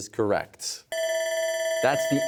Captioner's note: bell ringing